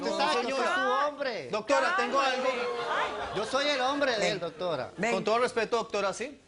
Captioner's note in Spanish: gritan